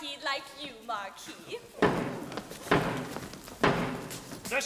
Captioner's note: steady thudding